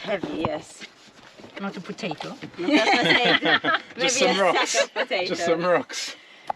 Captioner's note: laughter